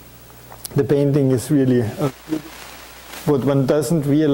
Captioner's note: static distorts audio